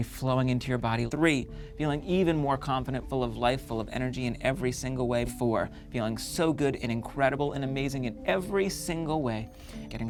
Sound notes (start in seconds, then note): none